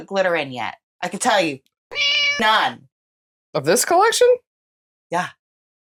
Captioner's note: meow